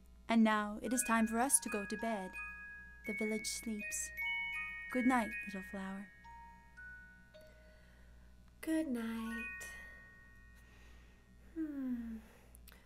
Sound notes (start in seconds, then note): 3.9 chimes twinkling; 6.0 chimes twinkling